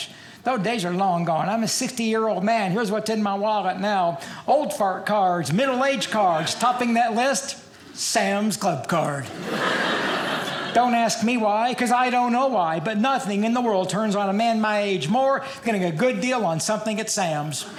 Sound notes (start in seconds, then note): 9.2 audience laughing; 17.6 audience laughing